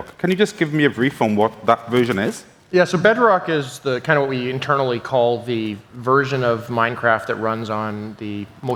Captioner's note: none